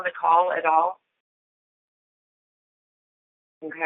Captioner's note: silence